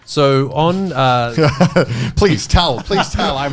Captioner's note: laughing